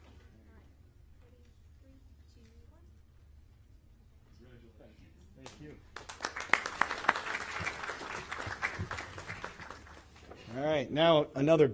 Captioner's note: applause